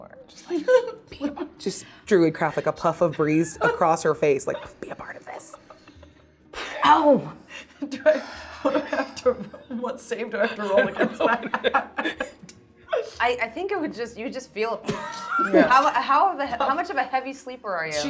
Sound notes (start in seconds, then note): 10.5 laughing; 14.9 laughing